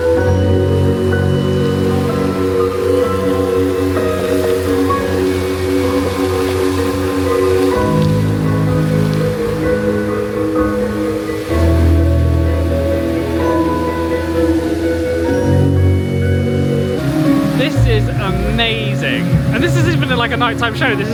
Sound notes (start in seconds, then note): 0.2 thoughtful music; 0.2 water splashing; 9.0 thoughtful music continues; 9.0 water splashing continues